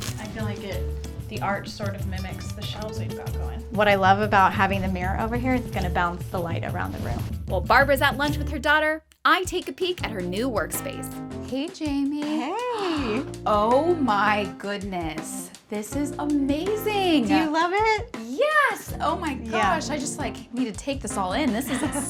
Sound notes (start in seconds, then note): 12.5 gasps; 21.6 laughs